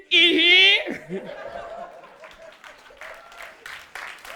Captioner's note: audience laughing